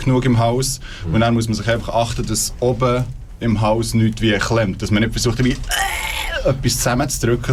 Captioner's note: squealing